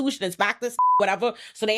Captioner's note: beep